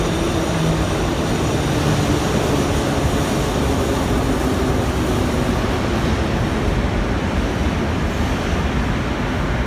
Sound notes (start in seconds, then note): 4.0 arrival of train at the station